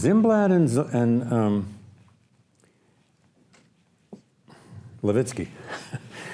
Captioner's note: laughs